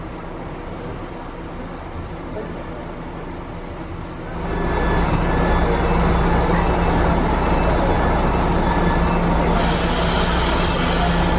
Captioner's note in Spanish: sonido ambiente y salida del bus 'Eme Bus 241'